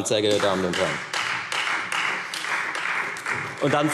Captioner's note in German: Beifall Freie Demokraten